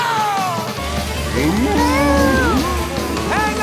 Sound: mooing

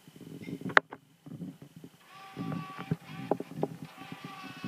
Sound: camera noises

